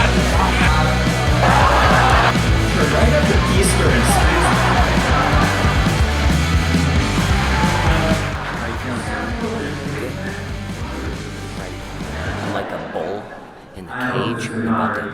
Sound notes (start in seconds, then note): 0.2 heavy rock music; 4.6 audience laughing